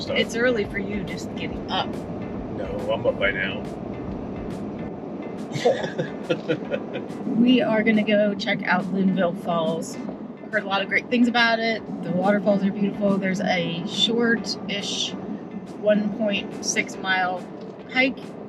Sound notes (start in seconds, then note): 5.5 chuckles